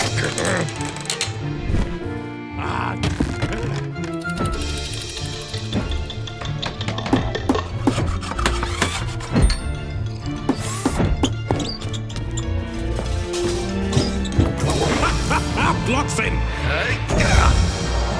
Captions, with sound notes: [Sherblock grumbles] [Sherblock exerts] [Hammering] [Sawing] [Sipping] [Power drills, somehow?!] [Mouse squeaks curiously] - Hahaha, Blockson! - Yeah!